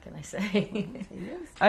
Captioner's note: laughs